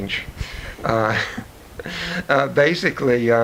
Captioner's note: chuckles